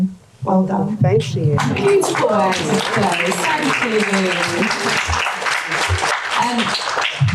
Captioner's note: audience applause